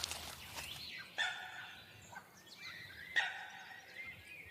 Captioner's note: bird screeching